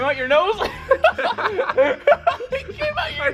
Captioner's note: laugh